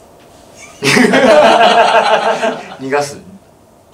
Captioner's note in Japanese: 笑い